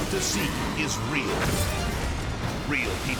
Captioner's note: explosion booms